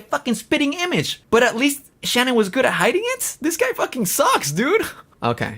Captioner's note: laughs